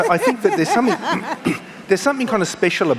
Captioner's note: laughing